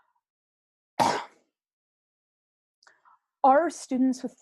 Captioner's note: cough